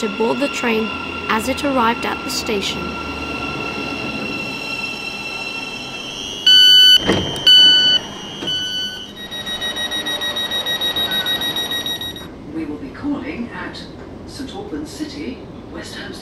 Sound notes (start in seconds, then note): 3.0 sound of train arriving; 6.5 door chime